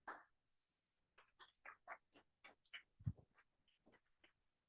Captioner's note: audience applauding